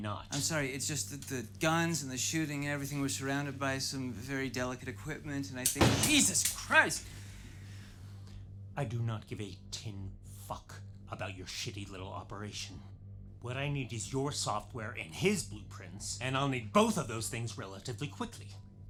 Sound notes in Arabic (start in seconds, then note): 5.7 طلقات البندقية